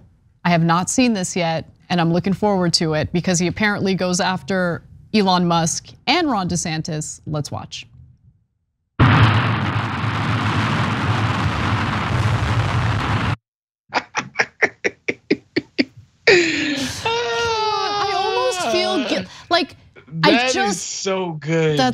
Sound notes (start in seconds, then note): 13.9 laugh